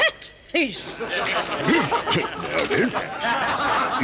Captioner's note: clears throat